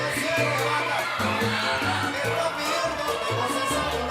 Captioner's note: audience cheering